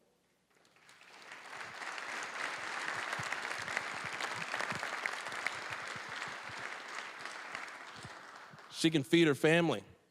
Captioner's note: applause